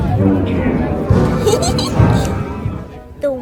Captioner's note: laughs